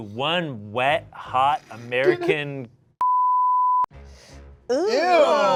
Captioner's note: beep